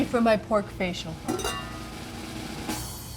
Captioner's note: drum rolls; metal lid clanking